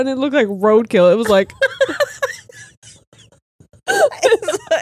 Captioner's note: all laughing